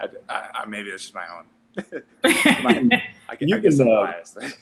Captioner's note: laughter